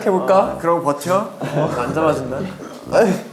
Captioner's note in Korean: 끄응